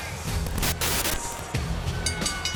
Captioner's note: static crackling; rock music